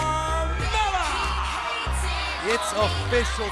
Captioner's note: crowd cheering